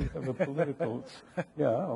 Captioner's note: laughing